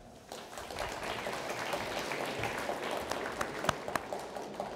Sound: audience applauds

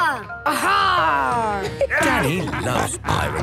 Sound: laughter

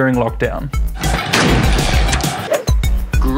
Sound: gun shot

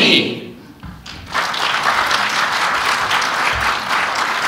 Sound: applause

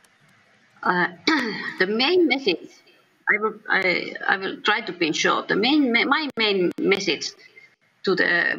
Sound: clears throat

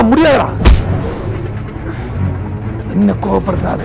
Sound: exhaling

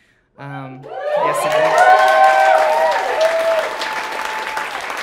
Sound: audience applauding

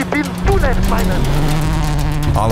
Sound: engine roaring

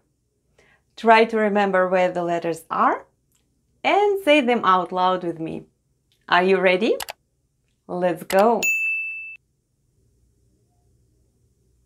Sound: click & ding sounds

